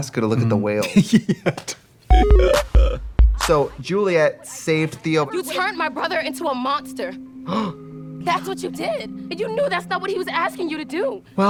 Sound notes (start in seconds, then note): 2.1 bright electronic music; 7.5 Trixie gasps